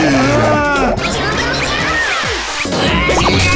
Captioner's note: Sparky yells; Jaw screams in pain